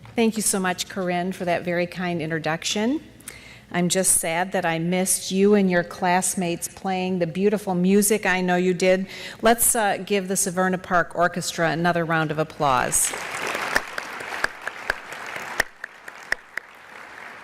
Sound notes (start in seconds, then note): 13.0 clapping